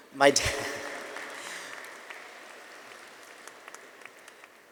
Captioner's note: audience applauding